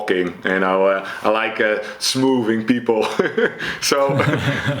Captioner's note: laughs; chuckles